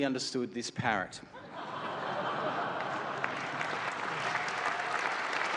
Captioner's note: laughter; applause